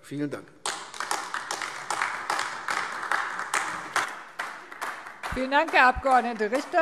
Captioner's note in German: Beifall AfD